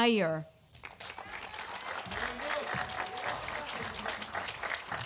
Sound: audience applauding

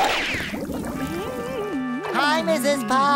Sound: humming

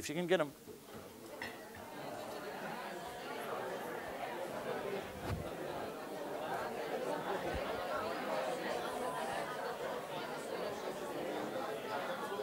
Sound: audience discussion

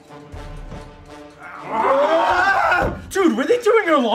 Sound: zombies yell

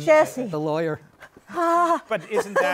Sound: groans, laughs

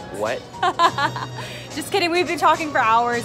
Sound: laughs

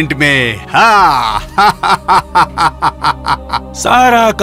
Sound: laughs

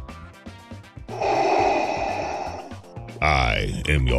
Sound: respiration

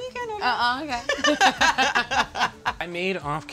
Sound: all laughing

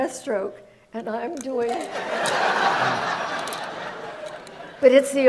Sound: audience laughs

